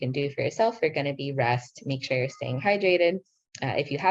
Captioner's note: speaking in foreign language